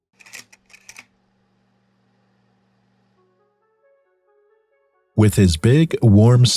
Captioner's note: projector whirs